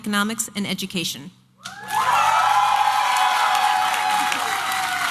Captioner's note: applause and cheering